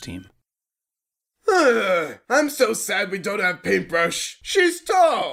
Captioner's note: sigh